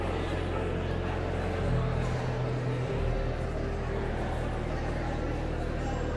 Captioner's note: pensive organ music continues; audience chattering continues